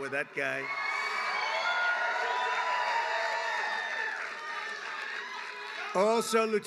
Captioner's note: applause